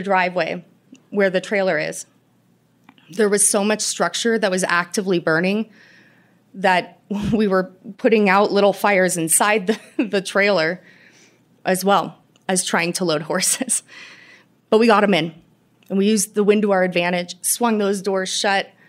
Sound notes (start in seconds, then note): 9.7 laughter